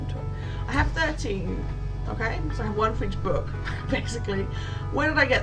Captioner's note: laughs